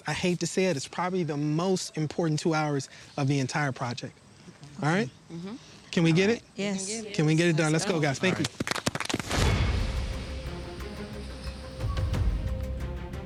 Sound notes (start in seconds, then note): 8.4 all applauding; 9.4 dramatic music